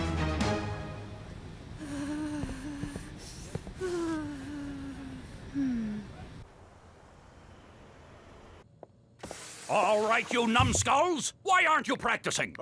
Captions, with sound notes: (shivering) (sighing) - Alright, you numb skulls. Why aren't you practicing?